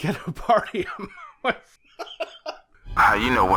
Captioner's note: laughs